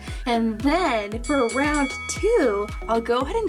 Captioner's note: bell dinging